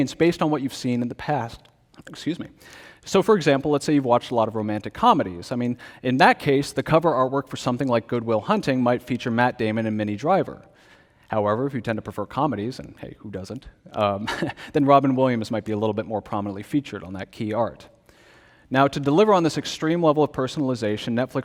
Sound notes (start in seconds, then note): 14.2 laughs